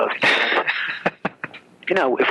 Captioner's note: laughs